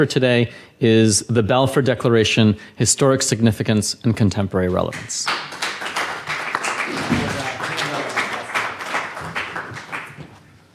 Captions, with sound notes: Balfour Declaration, Historic Significance, and Contemporary Relevance. (audience applauds)